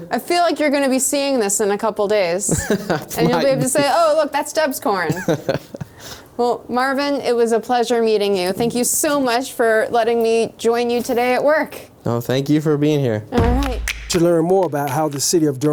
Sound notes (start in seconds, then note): 2.5 laughing; 5.1 laughing